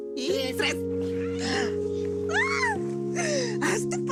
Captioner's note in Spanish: Gritos y risas